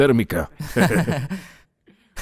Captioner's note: Ambos ríen